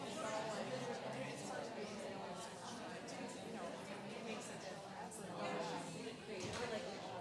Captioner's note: background chatter